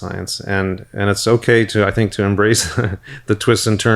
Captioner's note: chuckles